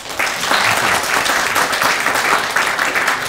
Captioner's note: applause